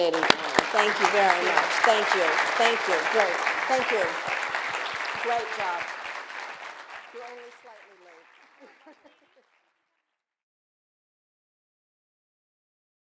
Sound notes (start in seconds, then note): 3.2 laughter